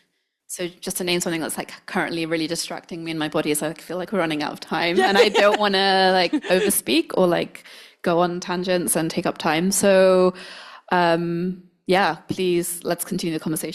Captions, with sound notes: So, just to name something that's, like, currently really distracting me in my body. So, I feel like we're running out of time- - Yeah. (laughs) - And I don't wanna, like, over-speak or, like, go on tangents and take up time. So, yeah, please let's continue the conversation